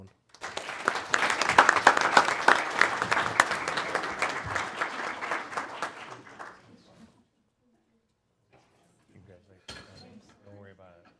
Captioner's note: applause